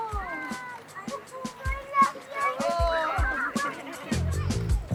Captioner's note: laid back music; passengers murmuring